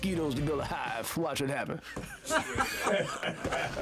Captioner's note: all laugh